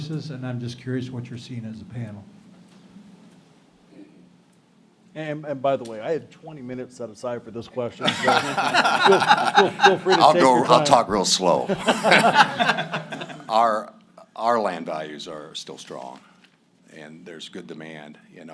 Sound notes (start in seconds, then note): 11.6 laughter